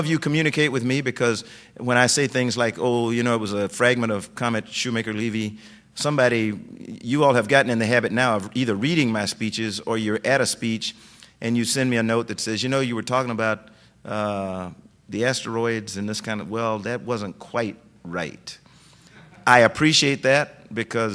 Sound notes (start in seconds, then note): 19.2 laughter